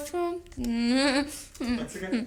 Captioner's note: whimpering